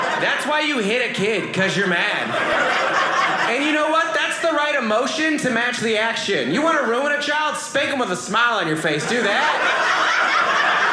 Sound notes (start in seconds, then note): 2.1 audience laughing; 8.9 audience laughing